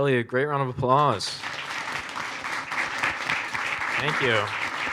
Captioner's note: audience applauds